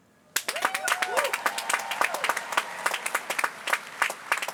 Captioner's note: applause